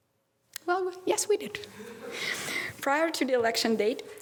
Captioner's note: audience laughter